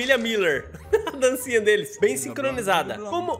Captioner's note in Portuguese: risos